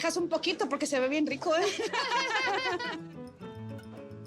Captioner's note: laugh